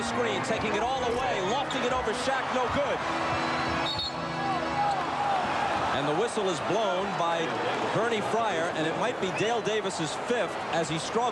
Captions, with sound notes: TAKING IT ALL THE WAY, LOFTING IT OVER SHAQ. NO GOOD. [WHISTLE BLOWS] AND THE WHISTLE IS BLOWN BY BERNIER FRYER, AND IT MIGHT BE DALE DAVIS' FIFTH AS HE STRUGGLED.